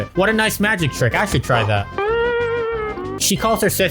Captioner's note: sad spongebob noise